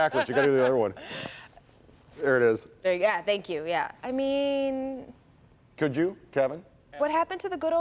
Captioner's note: laughter